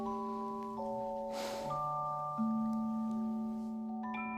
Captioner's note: sigh